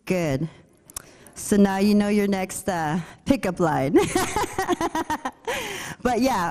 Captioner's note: laughs